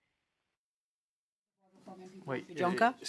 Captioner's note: speaking French